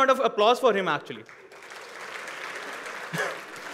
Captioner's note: applause